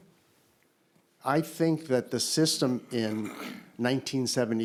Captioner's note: clears throat